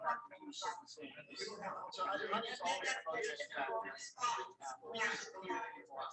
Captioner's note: people chattering indistinctly